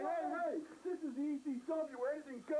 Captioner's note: crowd cheering